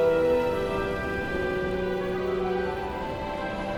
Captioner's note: flames crackling